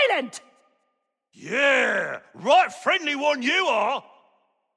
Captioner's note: echo